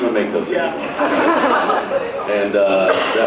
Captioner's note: laughs